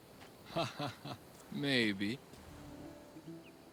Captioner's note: laughs